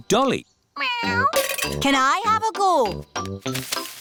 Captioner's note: meows